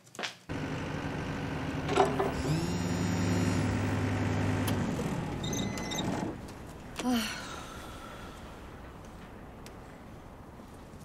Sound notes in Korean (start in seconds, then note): 2.1 휴대전화 진동음